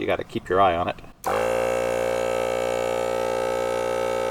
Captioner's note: buzzing